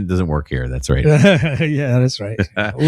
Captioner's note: uh